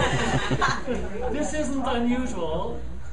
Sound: students laughing

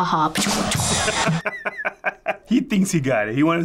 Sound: imitates rim shot; rim shot; laughs

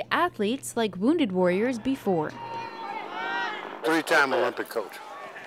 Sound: crowd cheering

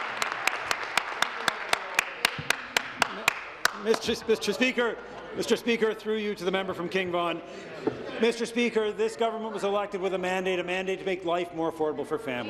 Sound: some Applause

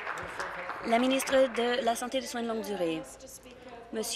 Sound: applause

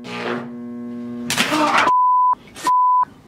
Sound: electricity sparking; man cursing; man screaming

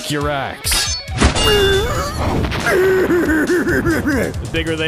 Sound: groaning in pain

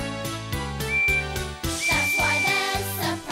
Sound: toot-Toot!

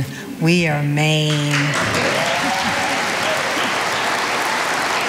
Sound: audience applauding

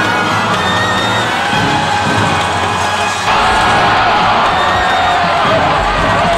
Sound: crazy amount of yelling

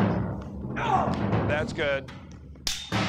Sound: intense percussion music; grunts

